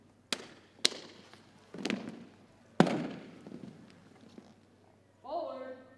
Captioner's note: rhythmic thumping continues